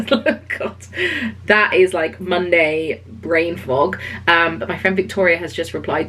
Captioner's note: laughs